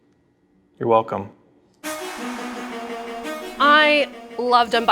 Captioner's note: xbox sound